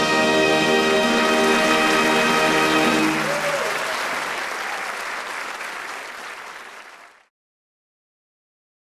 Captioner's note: applause